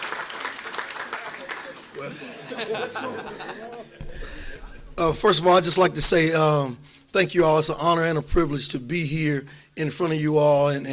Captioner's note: applause